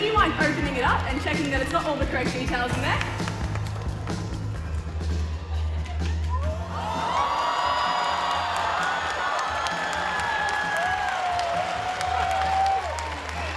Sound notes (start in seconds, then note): 7.2 crowd cheering